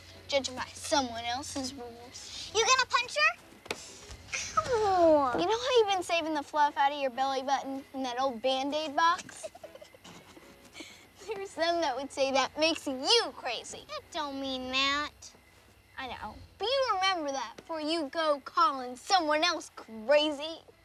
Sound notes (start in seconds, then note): 9.1 giggling